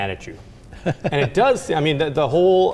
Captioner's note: chuckle